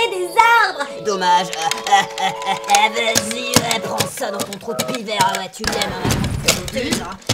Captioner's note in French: rire diabolique